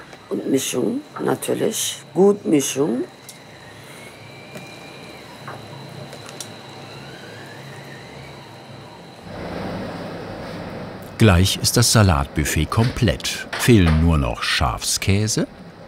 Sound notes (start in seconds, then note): 5.2 whirring